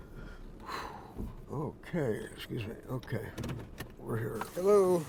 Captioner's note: exhales